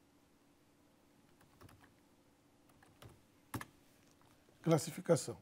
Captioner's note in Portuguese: ruídos do teclado